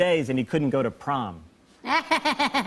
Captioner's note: laughter; laughs